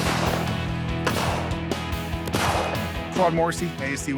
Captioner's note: guns firing; dramatic music